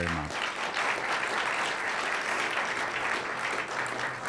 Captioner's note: applause